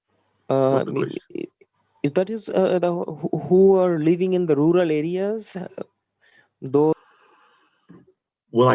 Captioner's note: audio skipping